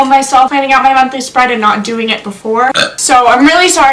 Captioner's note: burps